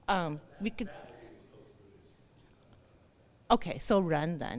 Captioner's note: speaking off mic